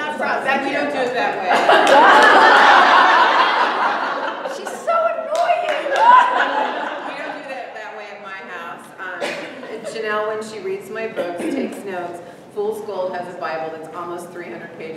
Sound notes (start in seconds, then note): 1.3 laughter from audience; 5.1 laughter